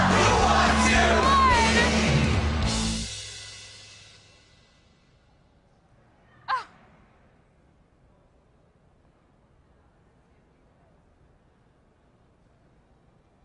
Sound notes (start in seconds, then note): 5.3 gasps